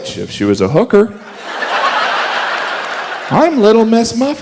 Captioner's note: audience laughs